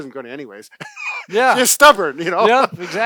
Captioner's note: laughs